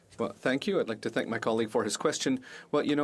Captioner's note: speaking French